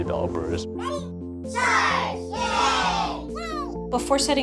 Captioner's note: cartoonish voices